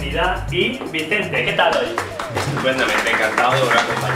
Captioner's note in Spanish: aplausos